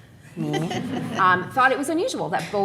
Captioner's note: audience laughing